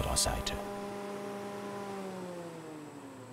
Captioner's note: the whirring stops